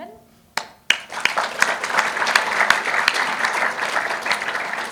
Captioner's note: audience applauding